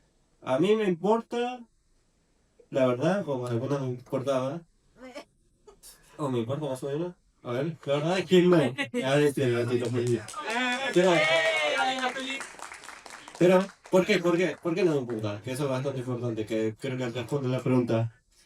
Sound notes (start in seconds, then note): 9.8 cheers